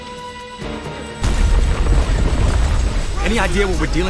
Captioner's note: rumbling